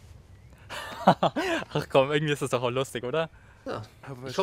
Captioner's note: laughs